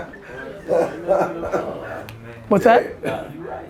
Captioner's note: laughter